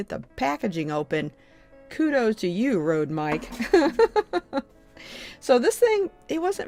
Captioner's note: laughs